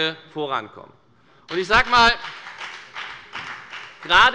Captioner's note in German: Beifall bei der FDP